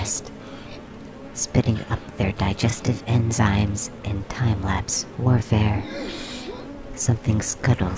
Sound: a sharp inhale

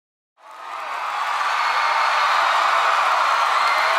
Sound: audience cheering

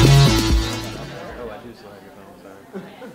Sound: crowd noise

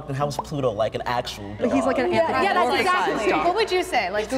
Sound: all talking and agreeing

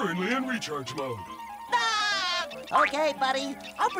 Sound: laughing

